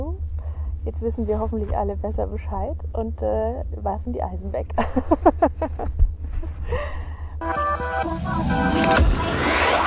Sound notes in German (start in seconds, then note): 7.7 lacht